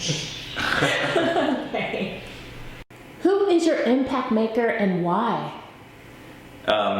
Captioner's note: laugh